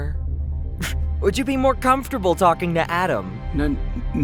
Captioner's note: laugh